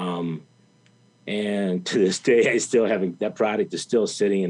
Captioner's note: chuckles